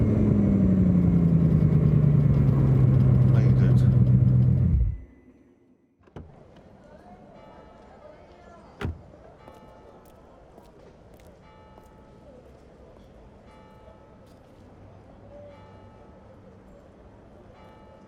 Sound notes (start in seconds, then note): 6.1 car door opens and closes; 9.1 bell tolling